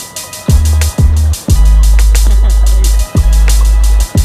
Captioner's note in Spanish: sonido de las olas